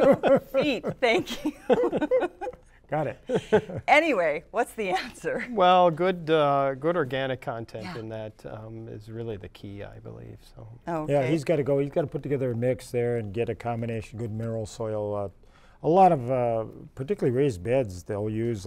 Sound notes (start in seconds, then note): 0.0 laughter